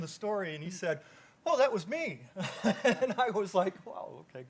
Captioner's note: chuckles